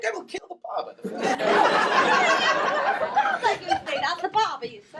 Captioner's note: laughing